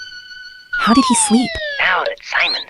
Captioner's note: whispering